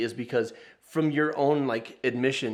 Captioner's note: none